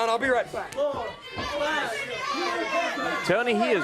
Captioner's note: crowd chatter